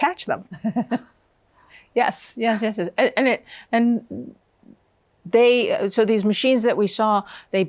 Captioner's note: laughs